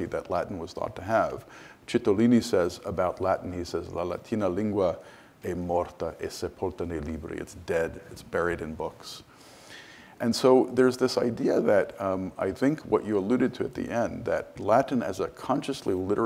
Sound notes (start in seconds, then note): 4.5 speaks foreign language